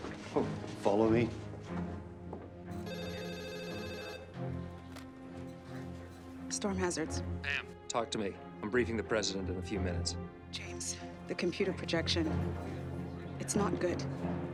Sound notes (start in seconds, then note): 0.0 footstep